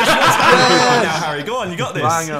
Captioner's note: laughing